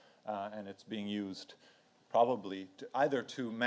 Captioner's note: none